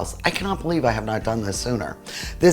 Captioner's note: none